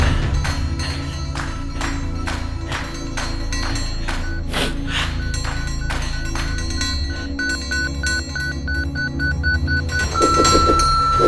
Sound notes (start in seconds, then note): 4.7 beeping sound; 8.7 beeping gets faster; 10.1 long single beep